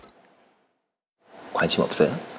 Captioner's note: silence